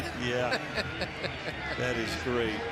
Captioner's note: laughs